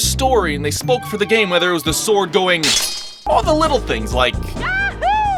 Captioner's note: clang